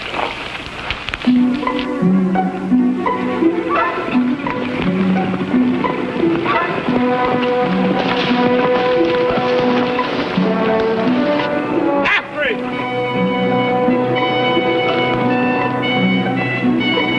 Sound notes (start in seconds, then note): 3.7 horses cantering; 3.7 tense orchestral music; 13.5 tense orchestral music